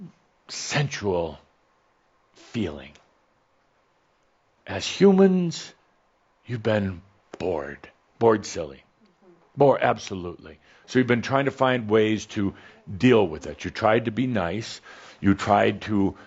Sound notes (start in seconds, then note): none